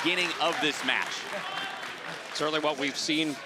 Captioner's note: crowd clapping